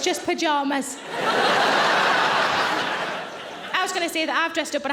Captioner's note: audience laughing